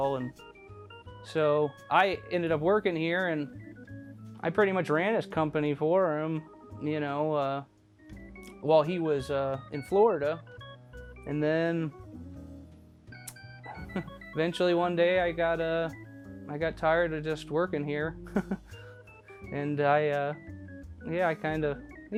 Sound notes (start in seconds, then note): 13.7 laughs; 18.3 laughs